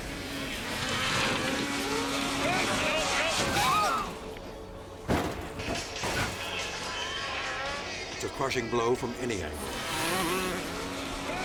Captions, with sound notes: (engine rumbling) (metal clattering) It's a crushing blow from any angle.